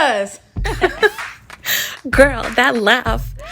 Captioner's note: both laugh